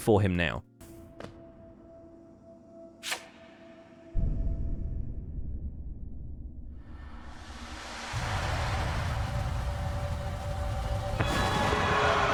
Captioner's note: footsteps